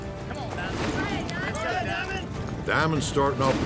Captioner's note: shouting encouragement